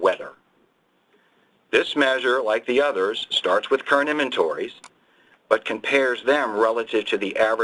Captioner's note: mouse click